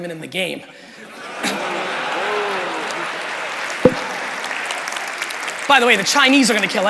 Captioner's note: crowd laughing and applauding